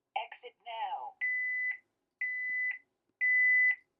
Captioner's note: beeping